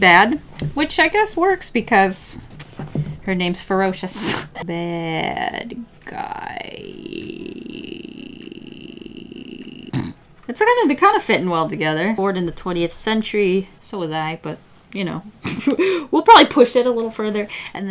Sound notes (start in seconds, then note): 4.2 laughs; 14.9 laughs